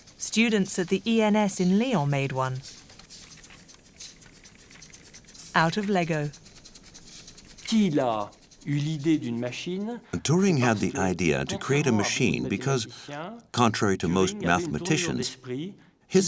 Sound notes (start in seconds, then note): 7.8 speaks foreign language